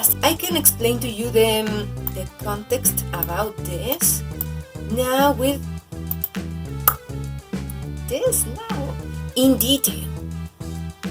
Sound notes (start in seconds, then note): 6.8 clicks her tongue